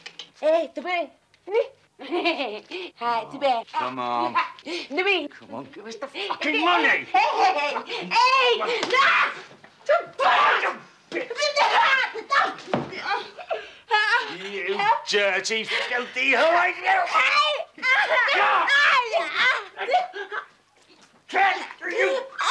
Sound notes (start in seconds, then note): 8.1 Sandra screams; 13.0 Sandra cries; 17.8 Sandra screams